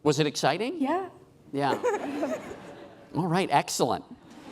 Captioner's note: laughing